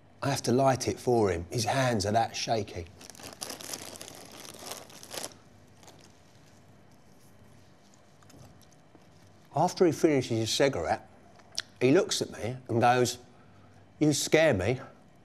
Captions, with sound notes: I have to light it for him. His hands are that shaky. (packet rustling) After he finishes his cigarette, he looks at me and goes, "You scare me."